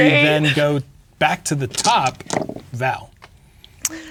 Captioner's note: dice rolling